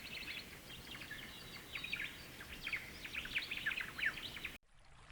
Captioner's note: wind blowing